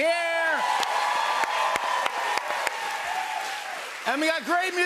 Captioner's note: cheers and applause